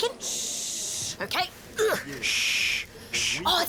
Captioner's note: grunts